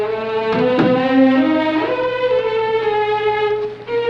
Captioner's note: door Closes